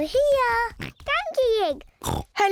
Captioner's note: oinks